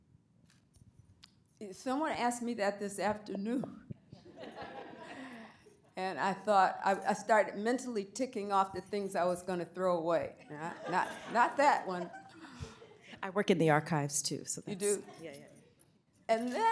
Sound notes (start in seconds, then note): 4.2 laughter